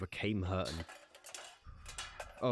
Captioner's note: metal rustles